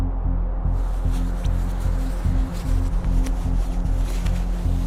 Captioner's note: fabric rustling